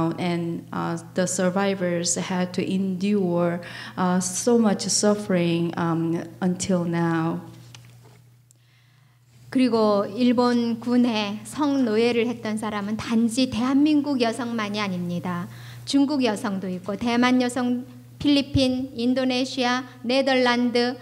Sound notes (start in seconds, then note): 9.9 speaking foreign language